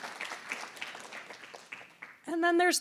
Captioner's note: applause